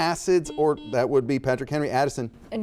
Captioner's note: buzzer dings